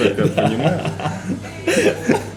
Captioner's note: laughs